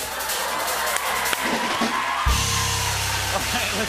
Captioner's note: cheers and applause